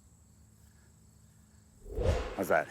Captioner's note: whoosh